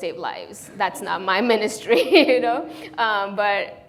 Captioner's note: laughs